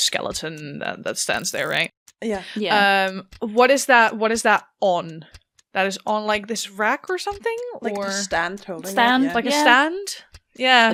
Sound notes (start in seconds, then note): none